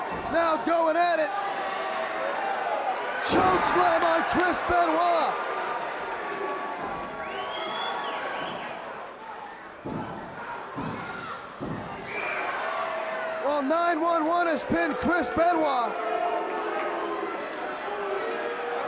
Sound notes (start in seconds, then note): 7.0 crowd cheering; 17.1 crowd cheering